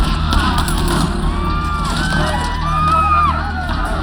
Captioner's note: groans